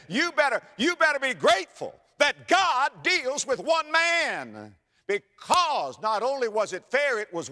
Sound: slap

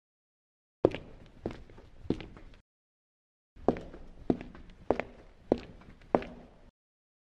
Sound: even more footsteps

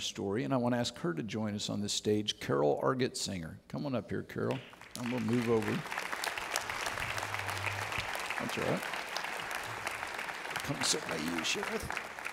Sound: audience Applauds

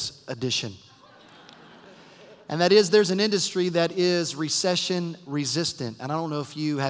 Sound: laughter

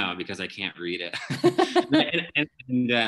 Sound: laughing

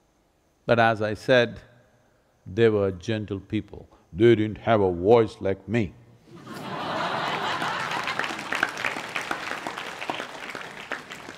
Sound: laughter/Applause

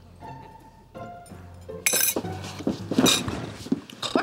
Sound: clanking

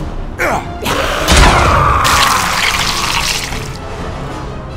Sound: zombie growl; Sniper screams in pain

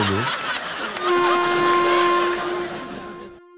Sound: horn blows

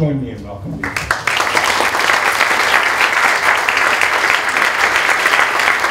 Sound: applause

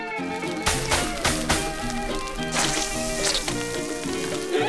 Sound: sizzling

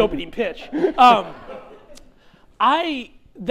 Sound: chuckling

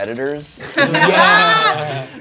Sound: group laughing

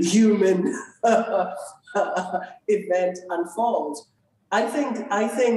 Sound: laughs

